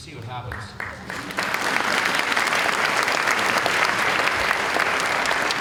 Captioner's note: applause